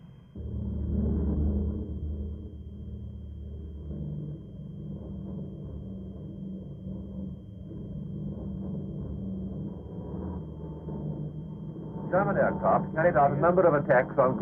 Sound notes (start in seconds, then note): 3.7 plane engines rumbling